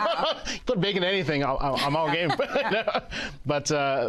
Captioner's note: laughs